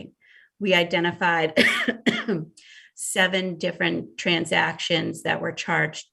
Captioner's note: coughs